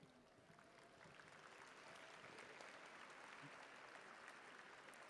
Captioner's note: audience applauding